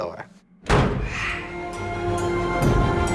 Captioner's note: door slams